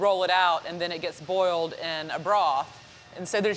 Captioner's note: none